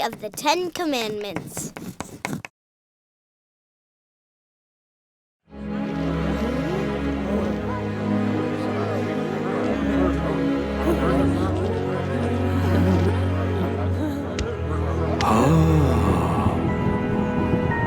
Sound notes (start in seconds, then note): 5.7 crowd murmuring; 5.7 dramatic music